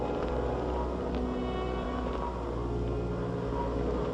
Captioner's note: mechanical whir